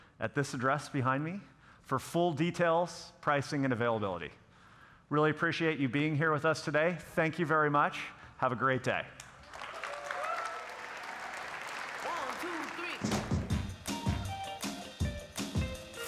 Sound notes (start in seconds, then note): 9.4 audience cheering and applauding; 12.2 lively music